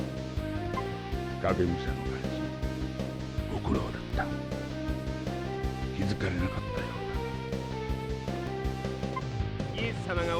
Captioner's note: geese